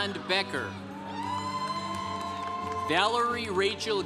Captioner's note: congregation cheering